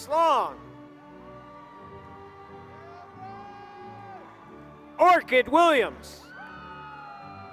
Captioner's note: applause